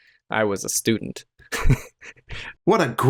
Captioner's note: chuckles